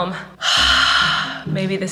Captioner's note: sighing